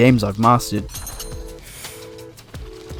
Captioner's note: sharp inhale